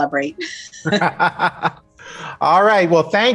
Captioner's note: laughs